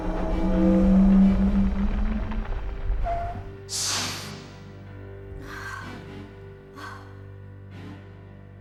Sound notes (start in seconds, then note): 3.7 hydraulics Decompressing; 5.2 sighs